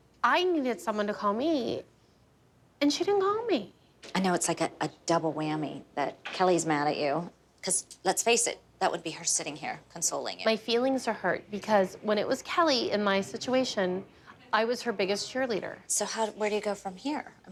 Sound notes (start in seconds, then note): none